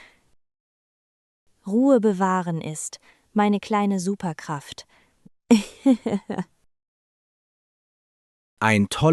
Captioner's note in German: lacht